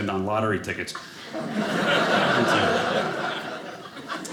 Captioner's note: audience laughing